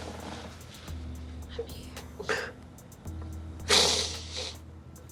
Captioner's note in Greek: ψιθυριστά